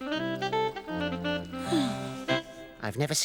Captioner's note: sighs